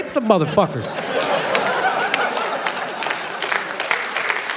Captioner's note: applause